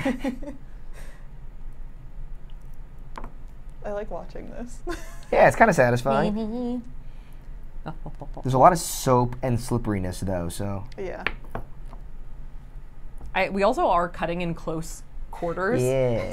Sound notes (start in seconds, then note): 0.0 laughs; 5.0 laughs